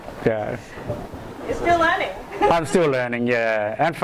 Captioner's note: voiceover